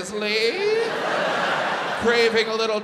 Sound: audience laughs

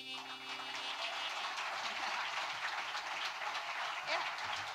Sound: audience applauding

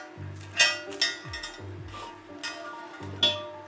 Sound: clanking

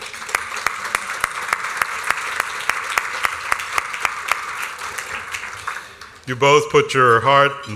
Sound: applause

